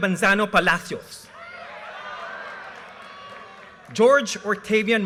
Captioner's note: audience cheers and applause